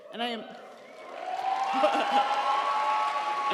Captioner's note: audience cheering; laughs; audience applauding; audience cheering